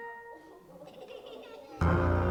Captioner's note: audience laughing; bright music